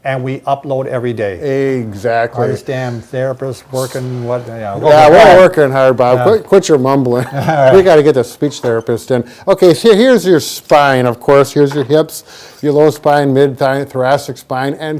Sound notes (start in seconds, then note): 7.1 laughing